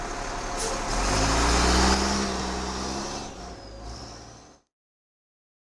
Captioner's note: diesel engine purring; diesel engine roaring